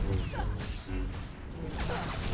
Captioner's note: footsteps